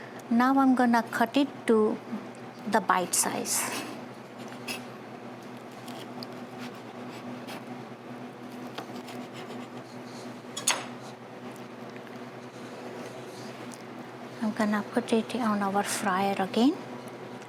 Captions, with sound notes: Now, I'm gonna cut it to the bite size. [ambient kitchen noise] I'm gonna put it on our fryer again...